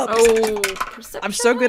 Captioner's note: dice clacks and clunks and clattering